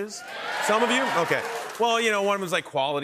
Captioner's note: cheers and applause